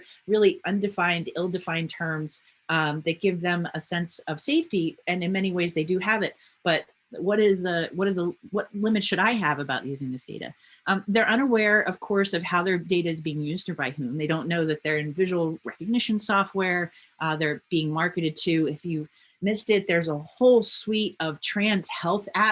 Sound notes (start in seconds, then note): none